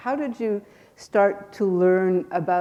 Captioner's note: none